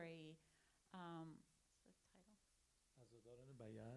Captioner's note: interpreter whispering